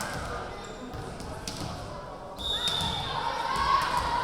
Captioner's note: yelling; whistle blowing